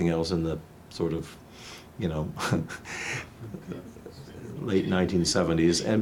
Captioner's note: laughs